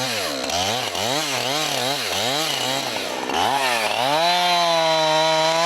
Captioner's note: chainsaw buzzing